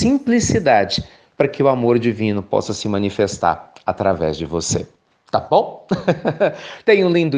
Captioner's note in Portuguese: risos